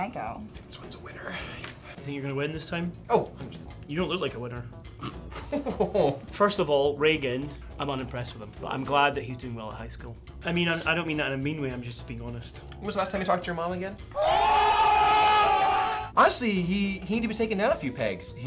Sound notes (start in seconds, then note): 5.0 laughing; 14.1 crowd cheering